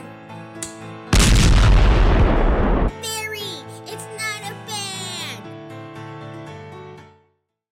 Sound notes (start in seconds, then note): 1.1 exlopsion